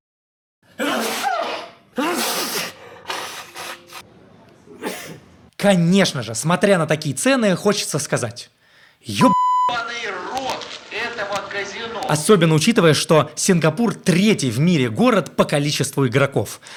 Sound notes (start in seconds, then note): 0.7 achoo; 4.7 cough